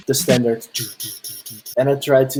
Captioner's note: beatboxing